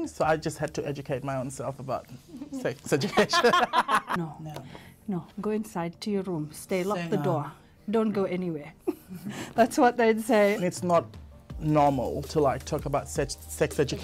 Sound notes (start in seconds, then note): 3.0 both laughs; 8.8 both giggles